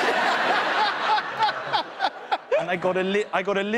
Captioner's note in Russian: смех